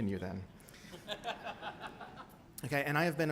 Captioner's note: laughter